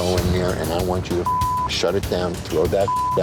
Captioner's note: beep